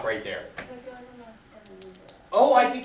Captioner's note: student speaks softly